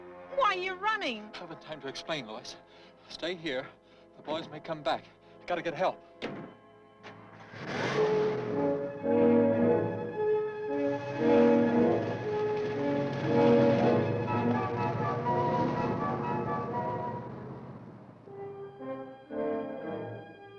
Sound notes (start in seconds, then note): 7.9 motor revving; 14.4 dramatic music